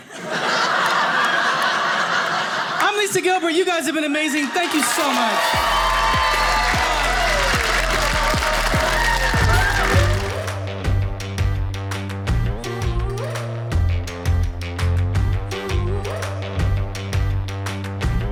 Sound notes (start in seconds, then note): 0.0 audience laughing; 5.5 audience cheers